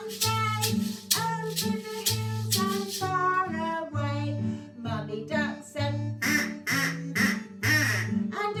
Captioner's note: quack, quack, quack, quack